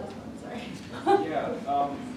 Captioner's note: laughs